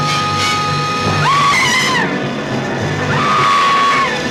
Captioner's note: screaming; buzzing